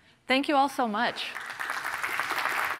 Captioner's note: applause